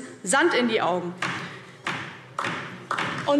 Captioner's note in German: Beifall DIE LINKE